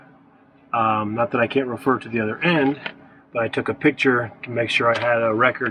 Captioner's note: none